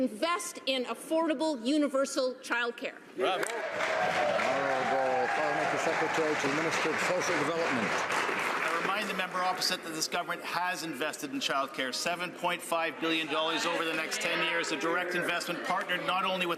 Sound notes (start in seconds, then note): 6.3 some Applause